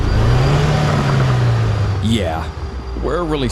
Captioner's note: car engine roaring